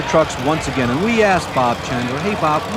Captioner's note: voiceover